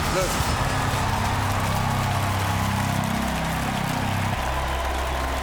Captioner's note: cheers and applause